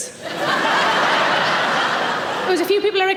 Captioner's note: audience laughing